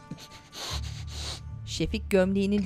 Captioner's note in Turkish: Nefes sesi